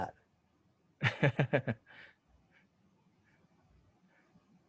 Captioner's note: laughs